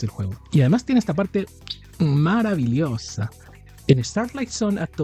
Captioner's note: kiss